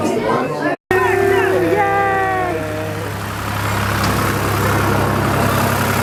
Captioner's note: cheering